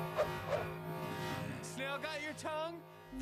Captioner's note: low growl